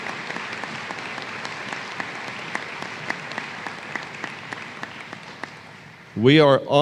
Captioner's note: applause